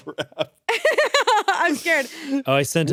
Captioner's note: laughs